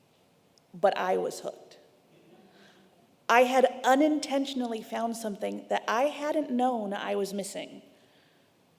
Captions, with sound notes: but I was hooked. (congregation laughing) I had unintentionally found something that I hadn't known I was missing.